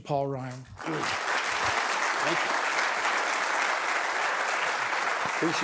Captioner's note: audience applauding